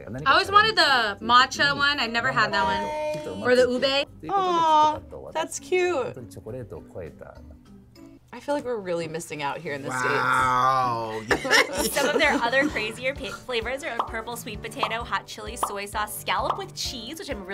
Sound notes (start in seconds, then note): 11.0 both laugh